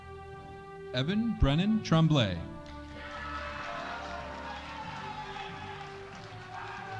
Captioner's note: audience cheering